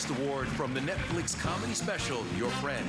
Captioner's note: applause